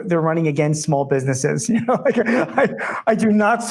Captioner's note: laughing